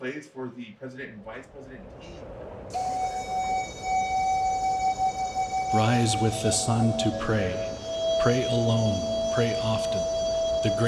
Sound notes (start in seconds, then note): 2.7 native American flute music; 6.2 voiceover